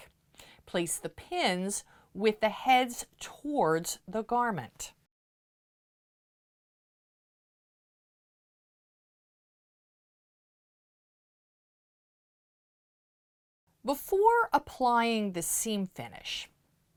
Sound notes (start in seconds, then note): 5.0 no Sound Present